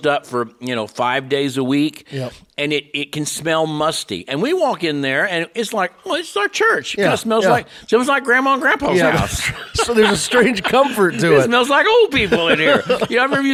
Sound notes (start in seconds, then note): 8.9 laughs